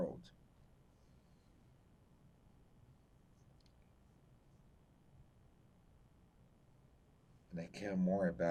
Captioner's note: pauses 6 seconds